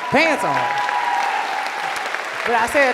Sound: cheers and applause

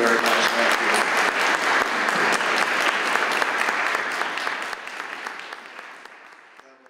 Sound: audience applauds

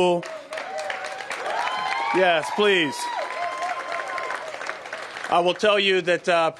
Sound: applause

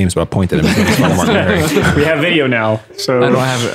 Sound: all laughing

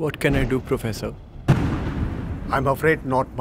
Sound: thunderclap

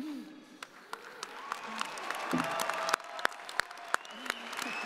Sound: audience applauding

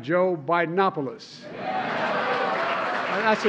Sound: laughter and applause

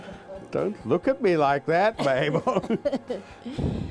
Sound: laughs

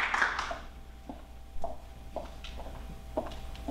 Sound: applause

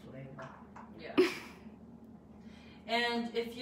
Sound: laughs

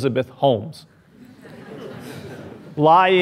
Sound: laughing

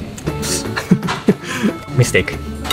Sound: chuckles

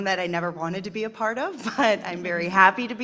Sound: panel chuckling

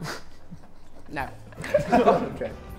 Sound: Sidemen laugh

